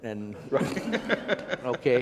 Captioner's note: all laugh